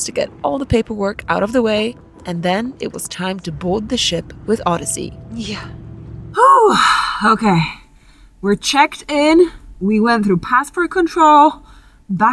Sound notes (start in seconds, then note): 6.4 speaker exhales